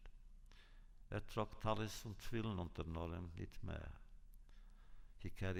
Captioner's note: Yiddish